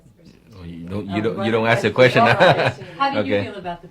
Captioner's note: cười